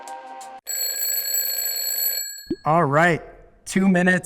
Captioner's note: bell rings